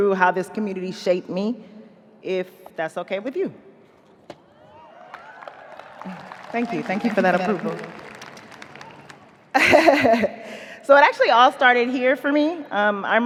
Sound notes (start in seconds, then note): 4.5 audience cheering; 4.6 audience applauding; 9.5 chuckles